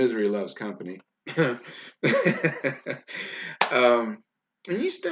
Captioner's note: laughs loudly